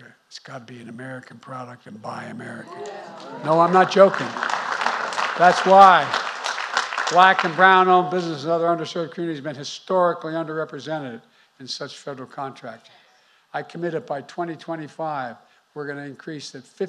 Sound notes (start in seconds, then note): 2.7 applause